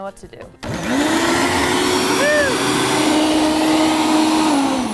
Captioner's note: blender whirring